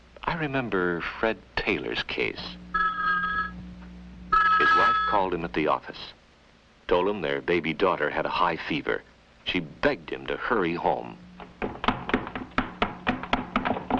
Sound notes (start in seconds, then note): 2.7 telephone rings; 11.4 running footsteps